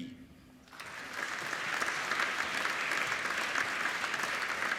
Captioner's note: applauding